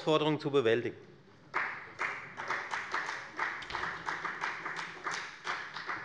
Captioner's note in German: Beifall bei der FDP